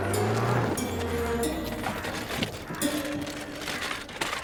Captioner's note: birds cawing